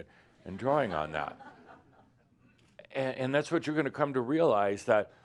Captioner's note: some laughter